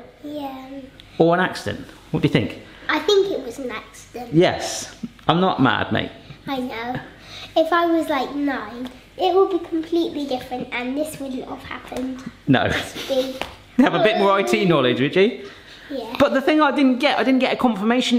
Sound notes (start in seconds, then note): 13.8 laughs